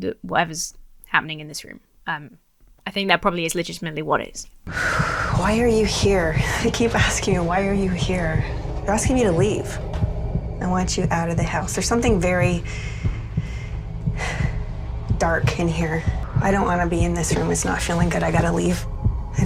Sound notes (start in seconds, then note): 4.6 continues breathing heavily; 14.1 sighs